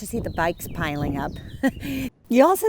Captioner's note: chuckles